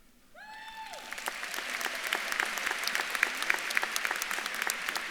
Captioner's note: audience claps and cheers